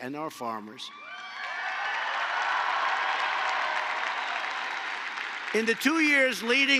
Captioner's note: applause